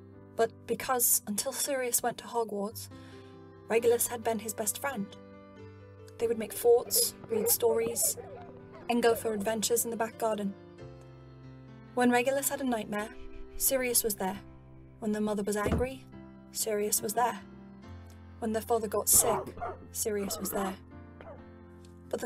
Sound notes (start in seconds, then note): 12.9 hushing noises; 15.6 thump; 19.1 coughing